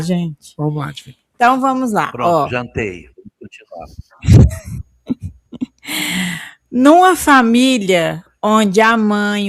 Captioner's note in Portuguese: suspirando